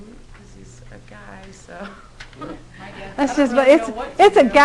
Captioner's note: laughter